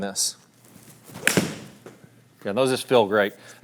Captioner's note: club striking